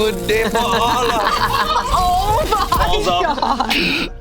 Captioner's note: group laughs